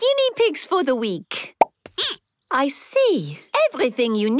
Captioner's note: squeaking